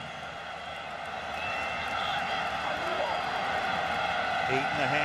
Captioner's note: cheering